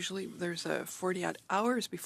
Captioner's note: speaking in French